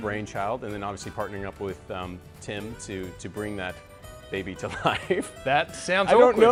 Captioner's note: laughs